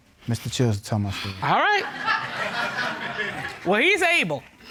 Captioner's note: audience laughing